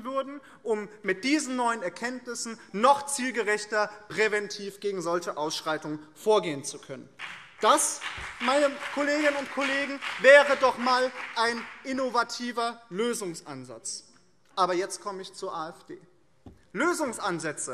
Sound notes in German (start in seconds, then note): 7.2 Beifall BÜNDNIS 90/DIE GRÜNEN